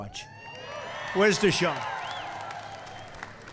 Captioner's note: applause